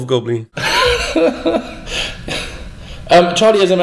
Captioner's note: chuckles